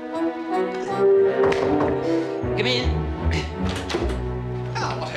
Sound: knock on door

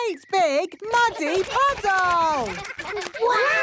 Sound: splashing

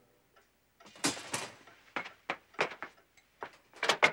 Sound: junk clanging

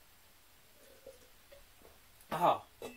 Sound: slurp

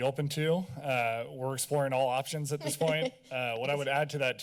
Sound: laughs

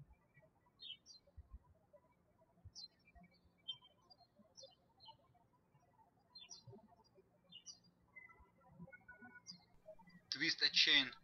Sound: birds chirping

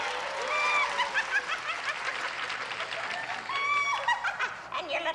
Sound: audience applauding; imitating a witch's laugh

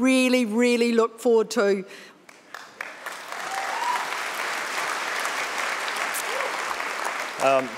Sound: audience clapping

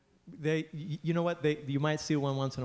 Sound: voiceover

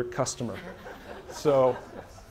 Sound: laughter

